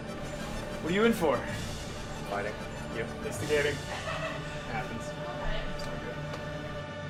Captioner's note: laughter